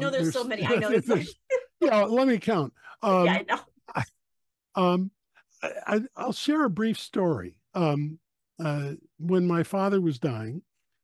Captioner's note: laugh